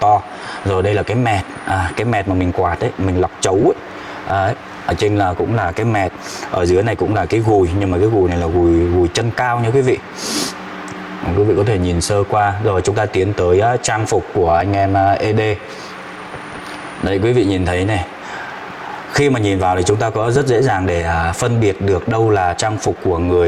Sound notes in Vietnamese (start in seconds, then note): 10.1 khịt mũi